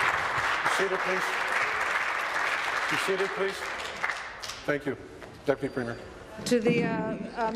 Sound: applause

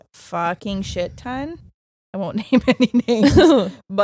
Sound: both chuckling

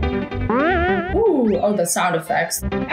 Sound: Mario spring boings

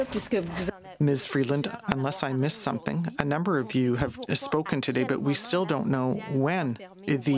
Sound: speaking French

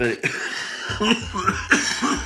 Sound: coughing

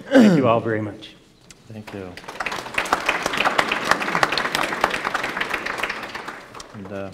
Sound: applause

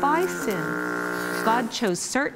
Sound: buzzing

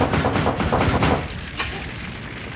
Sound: man banging

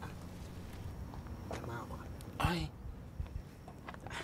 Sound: in Twi

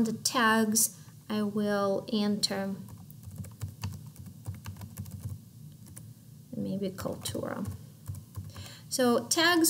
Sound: typing sounds

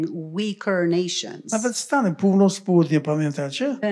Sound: foreign language

